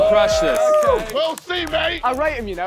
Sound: contestants cheering

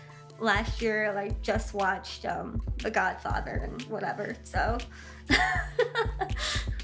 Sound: laughing

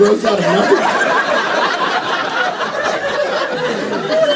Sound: laughter

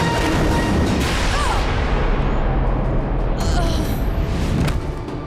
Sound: thudding, grunting

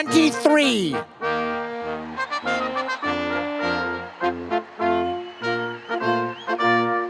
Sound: audience cheering

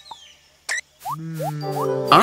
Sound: happily

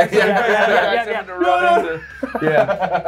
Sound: laugh

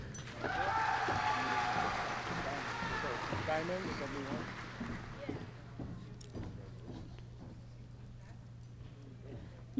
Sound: applause

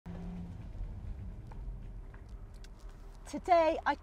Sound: car engine whirring

